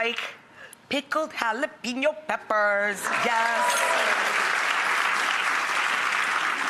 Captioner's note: audience applauds